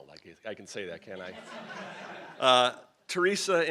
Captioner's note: crowd laughing